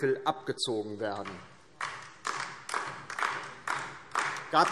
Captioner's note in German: Beifall DIE LINKE